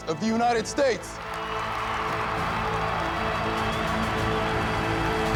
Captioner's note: cheers and applause